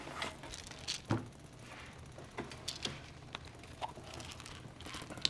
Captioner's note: pills rattling over rattling gunfire from video game